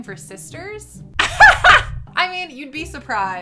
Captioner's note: laughing